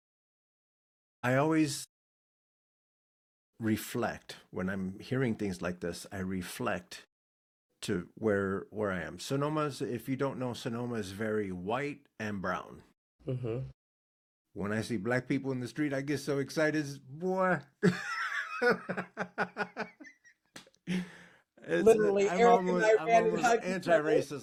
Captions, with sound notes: I always reflect, when I'm hearing things like this, I reflect to where I am. Sonoma, if you don't know, Sonoma is very white and brown. When I see black people in the street, I get so excited, "Boy." (Laughing) Literally, Eric and I are very happy to have you. Anti-racist, I get so excited.